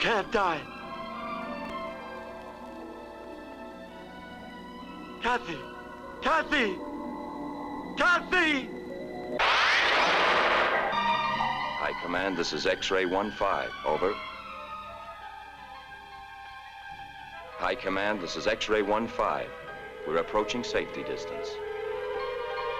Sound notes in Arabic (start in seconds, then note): 0.1 موسيقى هادئة; 9.4 هدير محرك الصاروخ